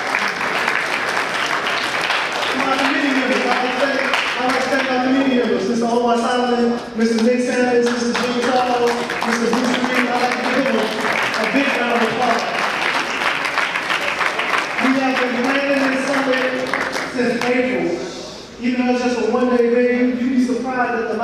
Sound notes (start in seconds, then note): 5.6 audience applause